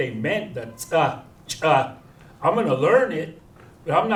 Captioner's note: non-english